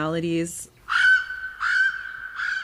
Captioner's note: ‘Alalā calls